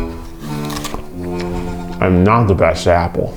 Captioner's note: epic music; apple bite crunch; upbeat music